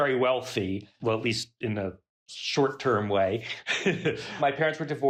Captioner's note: laughs